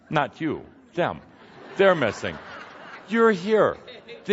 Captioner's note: laughter